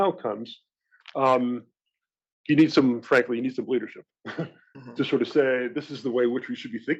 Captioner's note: laugh